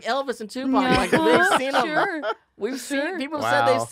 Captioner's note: he laughs